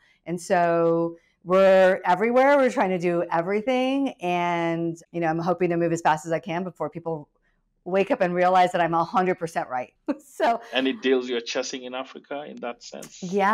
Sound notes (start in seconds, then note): 10.5 laughs